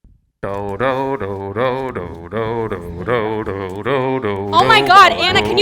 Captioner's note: making musical tunes